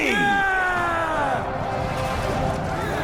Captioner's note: Imperial Army Battle Cry